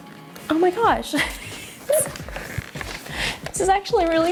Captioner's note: laughing